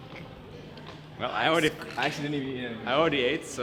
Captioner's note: hissing; laughs